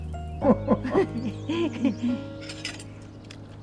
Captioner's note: both laughing